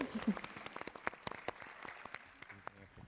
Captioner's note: applause